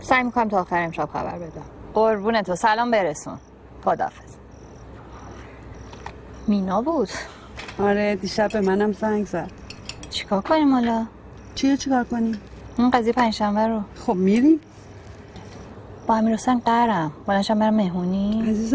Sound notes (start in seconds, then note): none